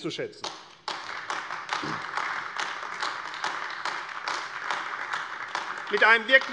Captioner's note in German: Beifall AfD